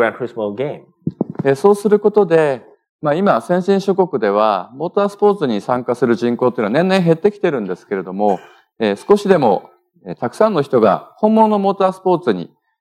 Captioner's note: speaking japanese